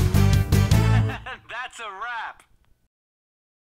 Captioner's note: guy laughing